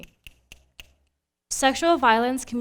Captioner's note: snapping